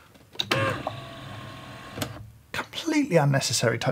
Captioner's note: machine whirs